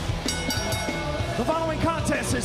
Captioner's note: bell ringing